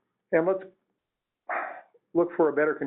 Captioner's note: sighs